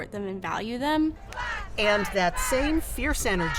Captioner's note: crowd